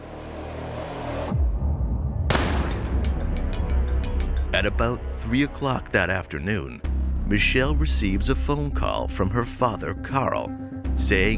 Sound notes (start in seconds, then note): 0.0 tense suspenseful music; 2.3 gun bangs